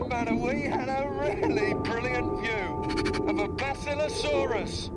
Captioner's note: laughs